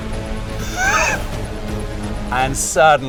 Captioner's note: dramatic music; laughing